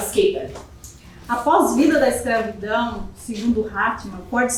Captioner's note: speaking portuguese